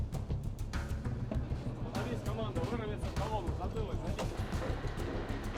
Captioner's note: speaking Russian